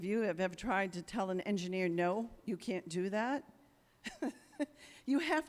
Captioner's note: chuckles